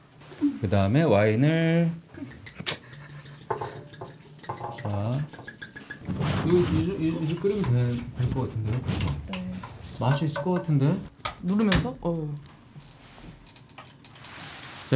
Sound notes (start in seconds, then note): 2.4 glug